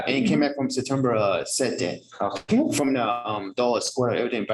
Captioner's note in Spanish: hablando inglés